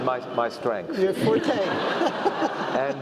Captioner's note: laugh